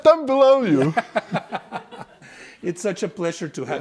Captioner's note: and class laugh